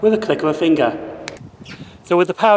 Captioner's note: clicking sound